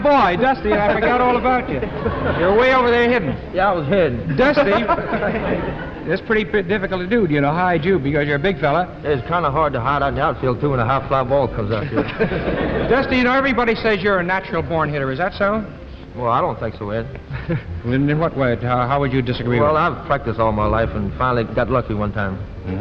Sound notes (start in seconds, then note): 4.2 laughter; 11.6 laughter